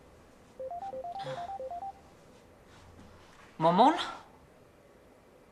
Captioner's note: ringtone chiming